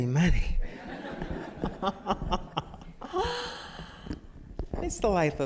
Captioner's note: laughter